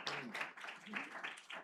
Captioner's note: applause